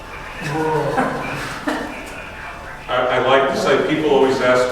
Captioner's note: radio chatter